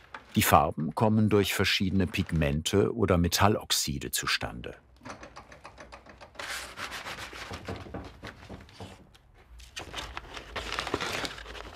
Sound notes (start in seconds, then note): 5.0 clacking, rustling